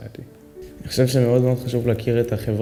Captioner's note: speaking arabic